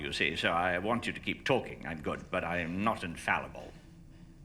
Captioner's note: none